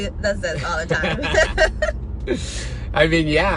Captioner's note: both laughing